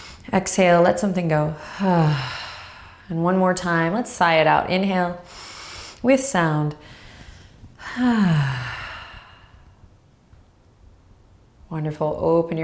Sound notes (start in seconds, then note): 0.0 inhales; 1.6 exhales loudly; 7.8 exhales loudly